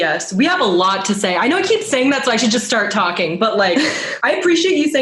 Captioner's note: laughs